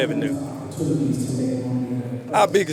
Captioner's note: presenter speaking faintly